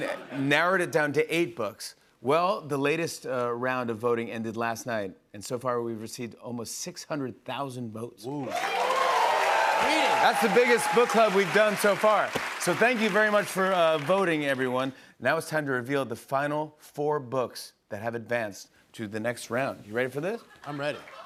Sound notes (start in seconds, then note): 8.4 cheers and applause